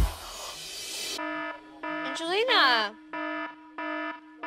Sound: buzzing loudly

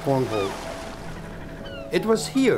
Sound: seagulls Chirping

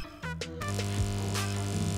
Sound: background buzz noise

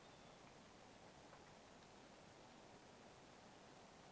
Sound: birds chirping

